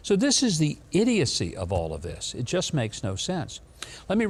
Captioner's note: none